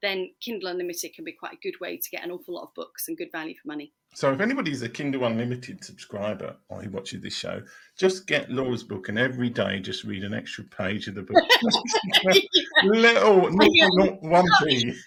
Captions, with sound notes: then Kindle Unlimited can be quite a good way to get an awful lot of books and good value for money. So if anybody's a Kindle Unlimited subscriber while you're watching this show, just get Laura's book and every day just read an extra page of the book. (laughing) Little, little, little, little, little.